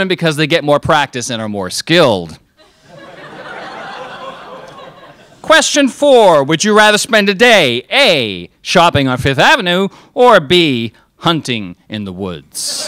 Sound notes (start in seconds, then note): 2.6 crowd laughs